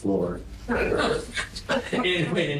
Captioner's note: laughter